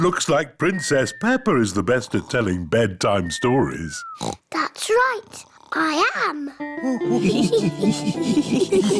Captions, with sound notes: It looks like Princess Peppa is the best at telling bedtime stories. (OINKS) That's right. I am!